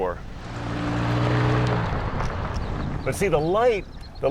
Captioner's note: motor sound